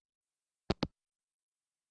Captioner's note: hangup